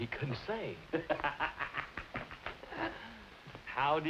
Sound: laughs

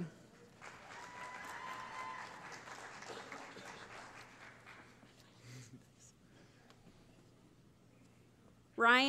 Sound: cheering

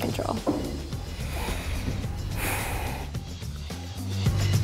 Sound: blonde female breathes deeply in thought

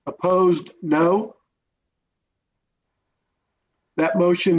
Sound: silence

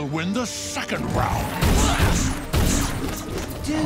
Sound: grunting

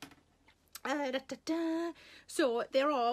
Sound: Sarah humming

